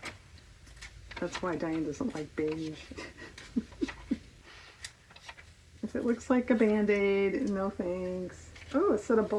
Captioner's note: laughs